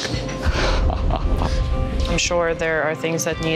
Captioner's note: laughs